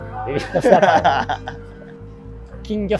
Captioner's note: laughing